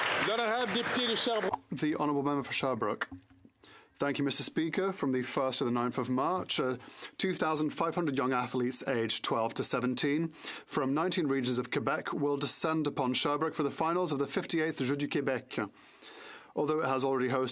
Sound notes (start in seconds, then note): 0.0 some Applause; 5.7 speaking French